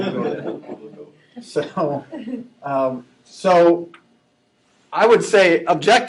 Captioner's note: laughing